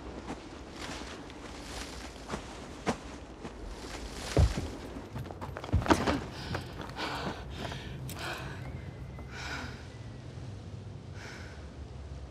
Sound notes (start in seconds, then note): 6.0 Natalie labored breathing